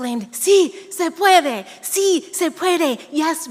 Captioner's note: speaking in a foreign language